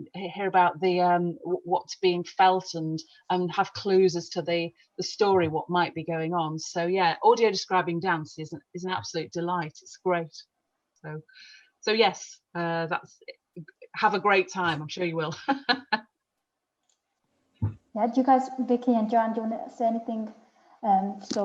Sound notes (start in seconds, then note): 15.3 laughs